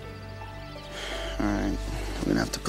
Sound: somber music; Eric sighs

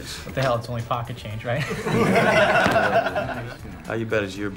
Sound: laughing

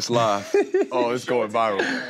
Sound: giggles

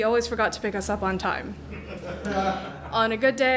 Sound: crowd laughing

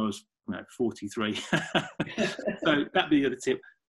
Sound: laughing

